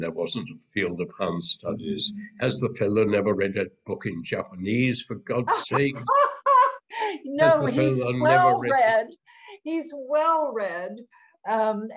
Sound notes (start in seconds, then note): 3.9 laughs